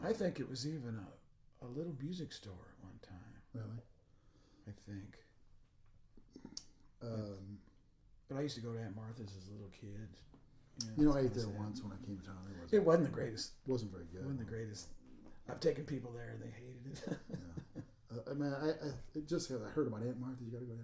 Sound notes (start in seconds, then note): 16.1 laughing